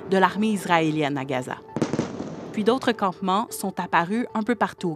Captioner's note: explosions